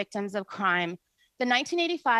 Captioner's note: speaking in French